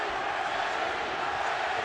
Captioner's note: audience chanting "manny!"